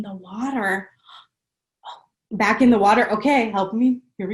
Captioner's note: gasps